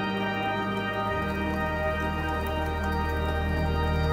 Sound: rain tapping

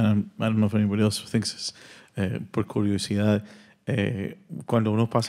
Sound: speaking Spanish; audience member continues in Spanish

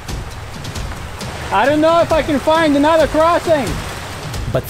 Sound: shouting

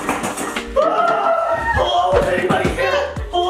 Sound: dad shrieking

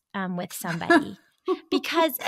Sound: laughs

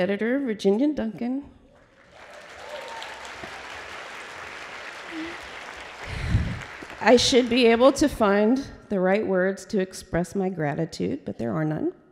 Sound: applause

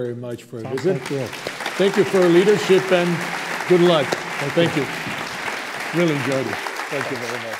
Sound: applause

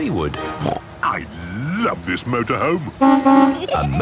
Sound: honking

